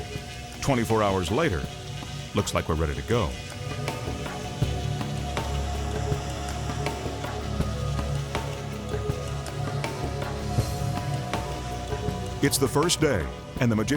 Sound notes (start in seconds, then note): 3.6 spray hissing; 3.6 tense music